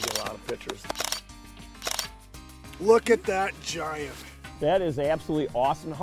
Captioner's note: camera clicks